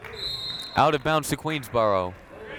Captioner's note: buzzer ringing; whistle tweeting